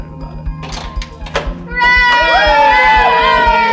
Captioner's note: door unlocking; cheering